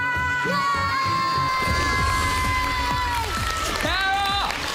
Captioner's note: applause